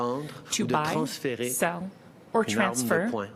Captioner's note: speaking French